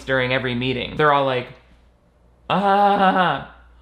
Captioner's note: sarcastic laughing